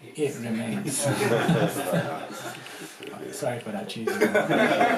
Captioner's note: laughter